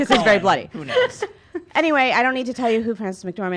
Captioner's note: laughing